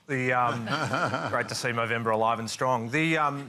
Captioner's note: laughter